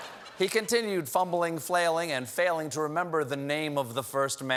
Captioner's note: laughter